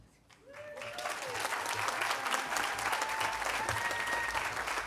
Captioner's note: audience applauding